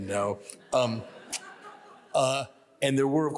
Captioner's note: audience laughs